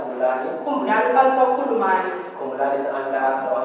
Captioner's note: woman speaking foreign language